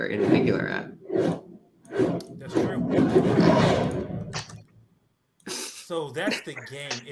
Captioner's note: whooshing